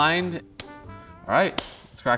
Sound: glove snaps

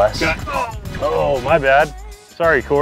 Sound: groaning

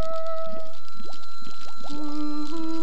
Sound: kettle whistles

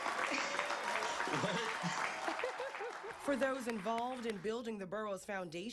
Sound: audience applauding

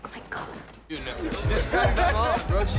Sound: laughing

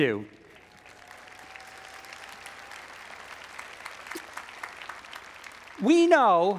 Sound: audience applauds; audience cheers

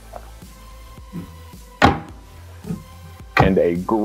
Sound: doors closing

